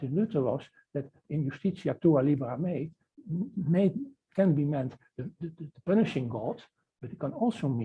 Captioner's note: non-english speech